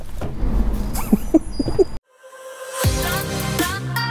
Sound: chuckles; upbeat music

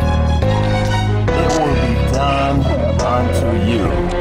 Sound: sobbing

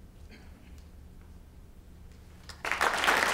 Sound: applause

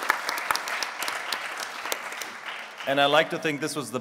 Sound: applause

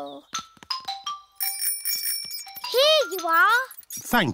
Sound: bell rings

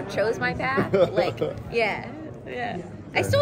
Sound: laughing

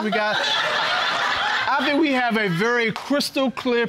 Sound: audience laughing

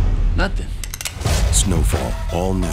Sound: gun cocks

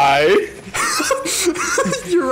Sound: laugh

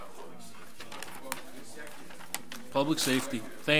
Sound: overlapping chattering

